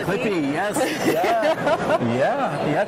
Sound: laughs

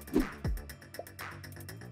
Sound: upbeat music; zooming sound effect

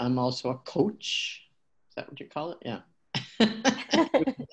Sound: laughter

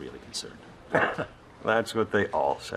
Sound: chuckling

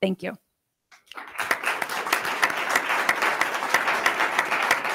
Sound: attendees clapping

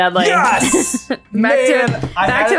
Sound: bell dings

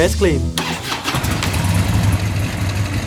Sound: vehicle exhaust sound

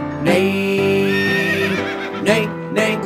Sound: horse neighing

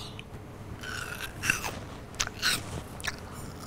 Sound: crunching

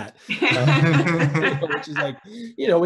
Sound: laughing

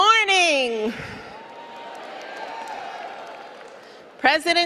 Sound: cheering

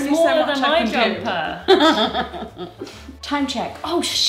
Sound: laughs

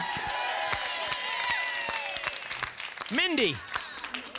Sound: audience applause

